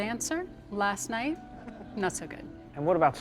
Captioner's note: people laugh